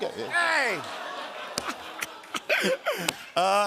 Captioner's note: laughter